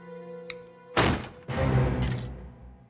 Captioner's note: door opens suddenly